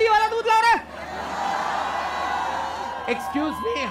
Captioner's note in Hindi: चियरिंग